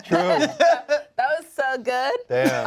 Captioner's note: laughs